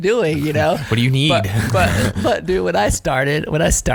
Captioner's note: laughs